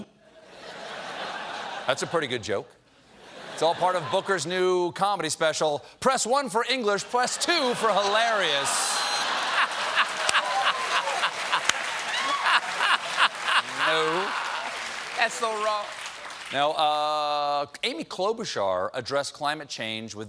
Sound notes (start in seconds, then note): 10.2 applause; 10.2 laughter